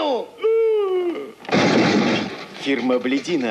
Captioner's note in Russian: грохот